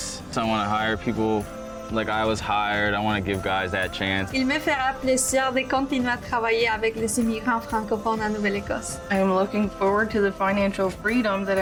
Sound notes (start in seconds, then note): 4.5 woman speaking foreign language